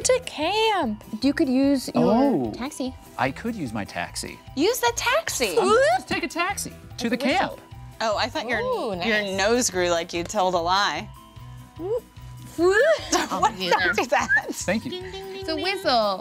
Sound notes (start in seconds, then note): 12.1 group whooping; 12.1 whistling